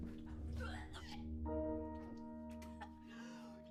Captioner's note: Ava vomits